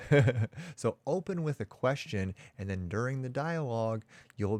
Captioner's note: chuckles